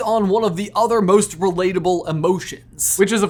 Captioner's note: none